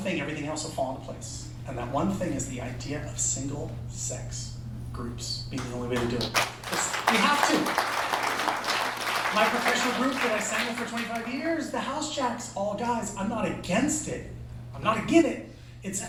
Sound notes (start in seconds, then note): 8.0 applause